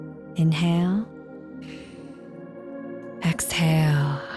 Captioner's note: inhales deeply